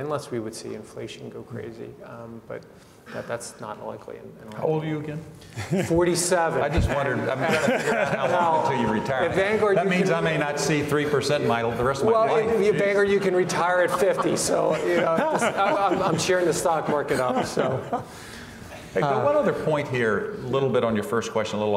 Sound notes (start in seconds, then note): 7.0 laughs; 14.8 all laugh